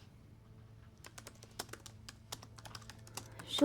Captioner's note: laptop keyboard clicking